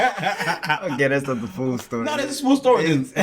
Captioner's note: laughing